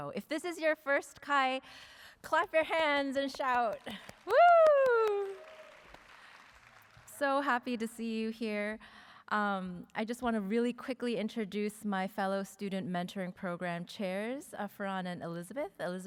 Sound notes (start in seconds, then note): 3.2 applause